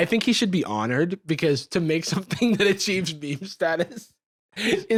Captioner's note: laughs